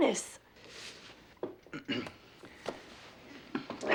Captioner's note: clears throat